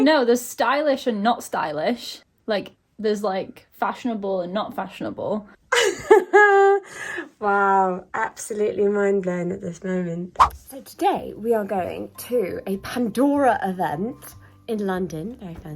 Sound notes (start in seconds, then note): 5.7 laughs